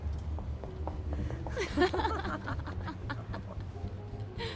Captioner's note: women giggling